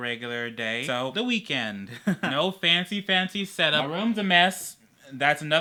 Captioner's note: haha